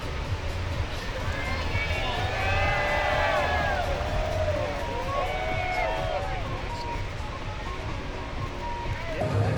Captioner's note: cheering